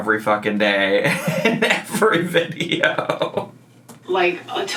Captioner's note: laughs